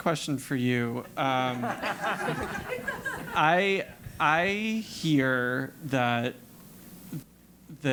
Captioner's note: laugh